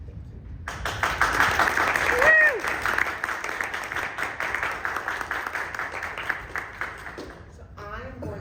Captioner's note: applause